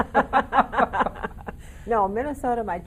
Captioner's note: laughing in unison